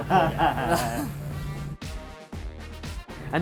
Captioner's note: all laugh